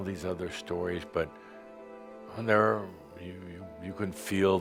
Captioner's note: none